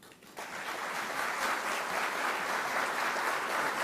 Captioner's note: audience clapping